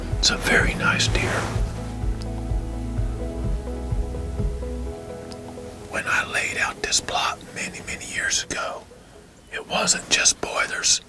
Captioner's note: whispering